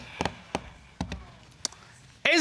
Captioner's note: drumming nails